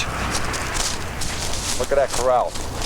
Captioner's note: footsteps crunching